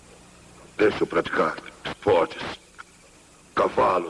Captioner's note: none